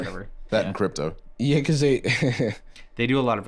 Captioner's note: laughs